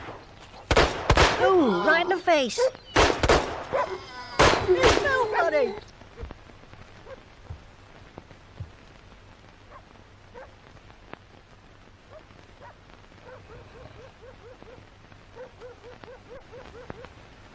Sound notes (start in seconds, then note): 0.6 gunshots booming; 2.9 gunshots booming; 3.9 zombie groaning; 10.3 dogs barking